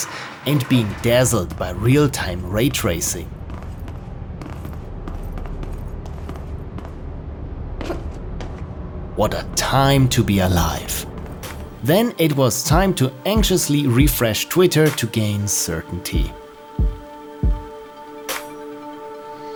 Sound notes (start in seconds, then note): 4.1 footsteps